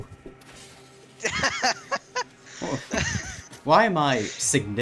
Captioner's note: laughing